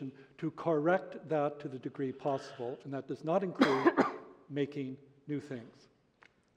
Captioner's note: cough